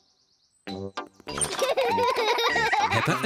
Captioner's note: both giggle